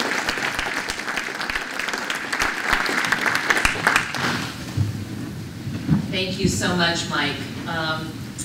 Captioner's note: applause